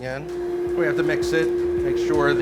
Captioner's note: furnace whirring